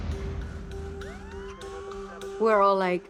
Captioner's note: siren